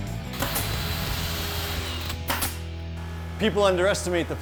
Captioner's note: drill buzzing